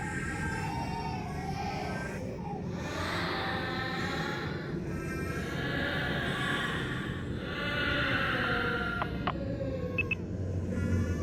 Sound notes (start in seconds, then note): 0.7 cries continue to escalate; 9.0 line goes dead